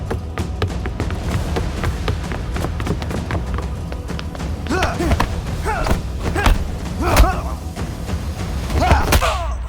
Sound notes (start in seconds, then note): 0.3 dramatic music; 4.6 both moaning